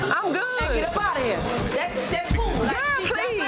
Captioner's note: overlapping chattering